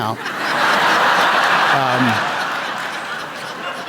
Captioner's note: laughter